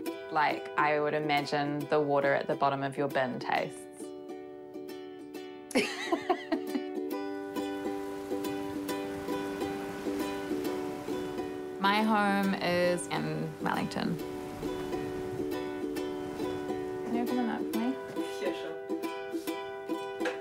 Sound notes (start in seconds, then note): 5.8 laughs; 13.9 wind blows